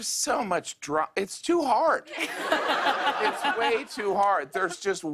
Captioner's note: laughter